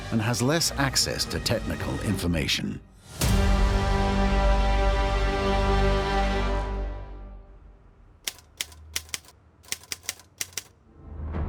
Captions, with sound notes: and has less access to technical information. [typewriter clicking]